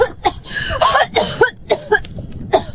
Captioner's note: cough; cough, cough